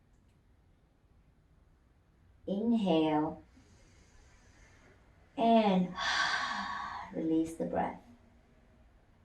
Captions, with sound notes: Inhale and [exhales] release the breath.